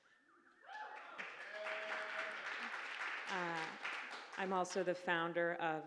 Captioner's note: audience applauding